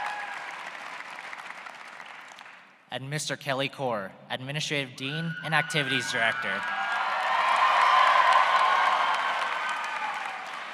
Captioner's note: applause